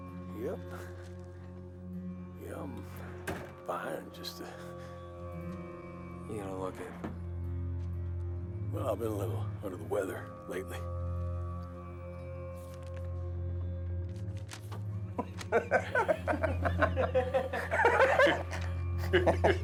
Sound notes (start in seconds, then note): 15.1 all laugh